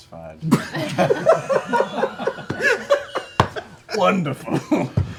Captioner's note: laughter